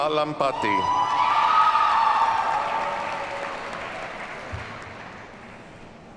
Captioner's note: audience cheers and applauds